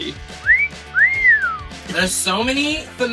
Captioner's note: whistling